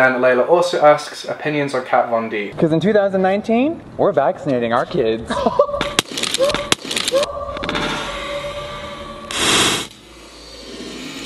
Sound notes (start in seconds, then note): 5.2 laughs; 6.2 smashing pallette